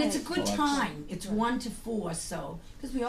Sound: voiceover

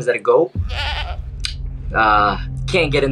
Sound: goat bleating

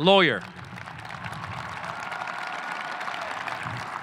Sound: audience applauding

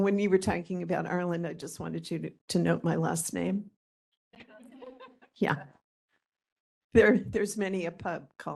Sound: laughing

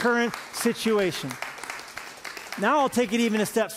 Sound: applause

